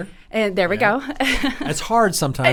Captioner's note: chuckles